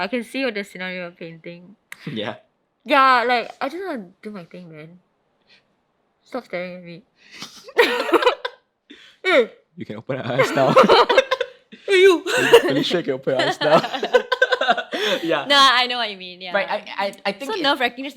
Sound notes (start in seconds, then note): 7.0 both laughing; 13.3 laughing